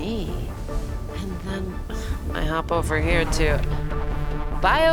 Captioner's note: exhales